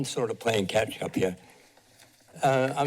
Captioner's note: pause